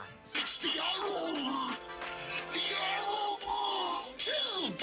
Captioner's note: Megatron speaking gibberish